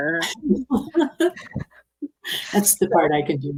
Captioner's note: participants laughing